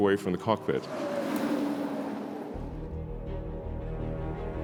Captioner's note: car engine revving